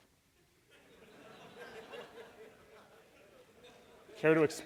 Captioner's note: laughter